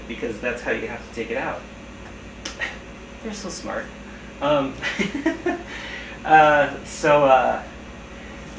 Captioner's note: laugh